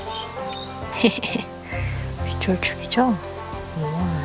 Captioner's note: laughter comes out naturally